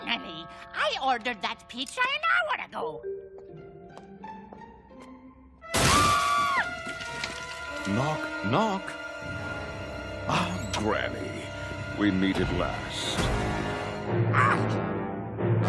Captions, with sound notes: Finally! I ordered that pizza an hour ago. (Screaming) Knock, knock. Ah, Granny. We meet at last.